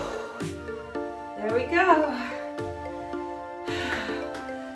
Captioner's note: clapping